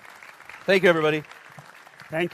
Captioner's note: applause